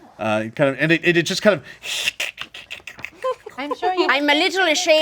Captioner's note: clicks